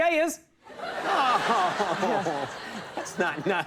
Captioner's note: audience laughs